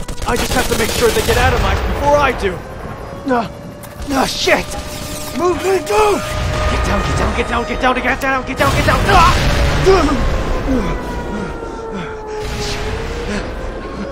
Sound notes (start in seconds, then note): 8.6 explosion; 10.0 panicked breathing